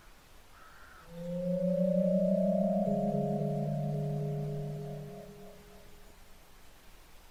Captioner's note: spoooooky